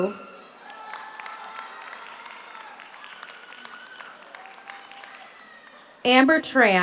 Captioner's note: audience cheers; audience applauds